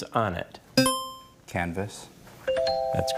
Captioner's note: buzzer chimes